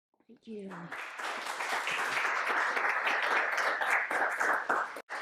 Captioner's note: audience applauds